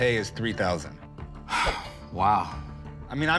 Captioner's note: sighs